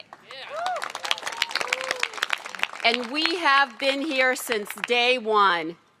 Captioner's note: applause